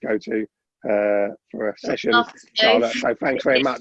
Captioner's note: laughs